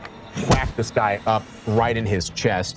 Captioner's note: thump